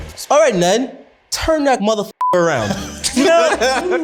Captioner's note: beeps